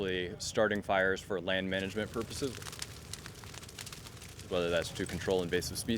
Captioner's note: fire crackling